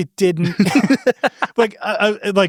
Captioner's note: laughs